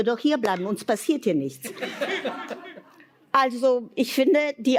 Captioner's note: laughter